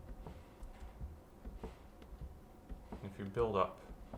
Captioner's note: pedal gently whooshing